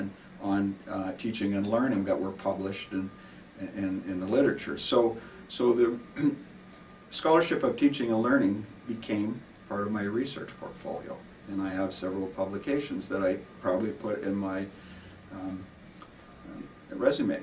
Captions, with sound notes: on teaching and learning that were published in, in, in the literature. So, so the, [clearing throat] scholarship of teaching and learning became part of my research portfolio, and I have several publications that I probably have put in my resume.